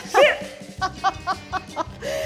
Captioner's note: laughs